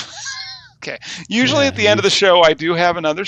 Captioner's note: laughs